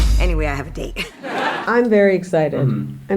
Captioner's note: crowd laughing